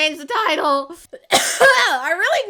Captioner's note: ouchy cough